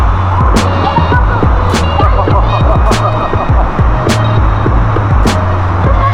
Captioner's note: laugh